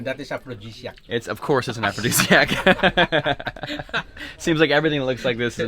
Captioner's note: laughs